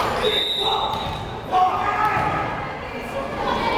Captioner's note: whistle blares